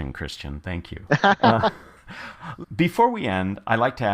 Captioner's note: laugh